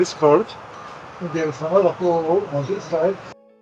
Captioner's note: speaking in foreign language